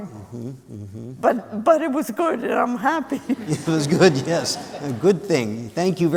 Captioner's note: laughter